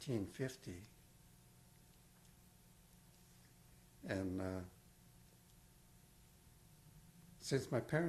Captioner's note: pauses for 3 seconds